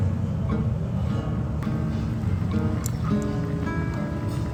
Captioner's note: bubbling